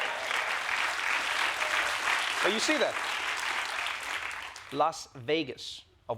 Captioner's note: applause